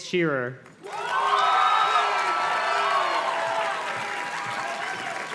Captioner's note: audience cheers and claps